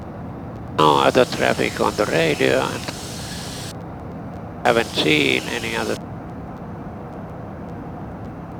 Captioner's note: traffic